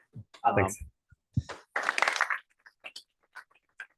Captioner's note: applause